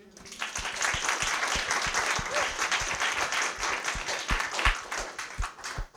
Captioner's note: applause